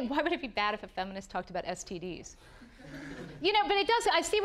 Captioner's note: audience laughing